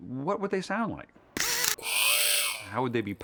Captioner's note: whirring